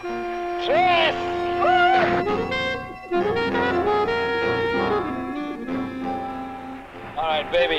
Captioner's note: upbeat instrumental music; man screaming